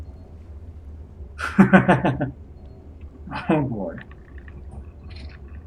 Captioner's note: chuckles